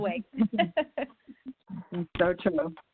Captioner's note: laughs